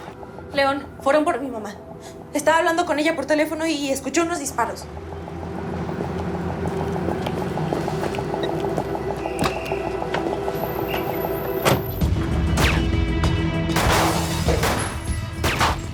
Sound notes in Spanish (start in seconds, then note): 8.6 Sonido al abrir y cerrar la puerta; 13.7 Disparos